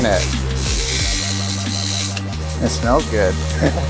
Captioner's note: laser whizzing